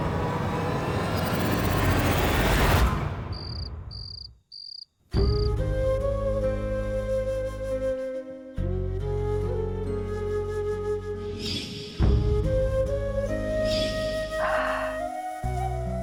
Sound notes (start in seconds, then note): 3.3 crickets chirping; 5.0 poignant music playing